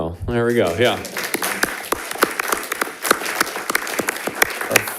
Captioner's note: all clapping